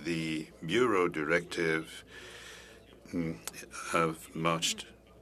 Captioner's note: speaking French